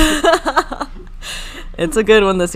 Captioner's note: laughing